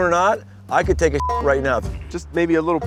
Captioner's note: beep